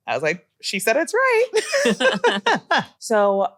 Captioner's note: laughter